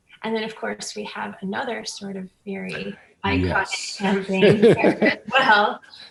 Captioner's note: laughs